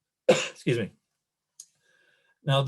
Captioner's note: coughs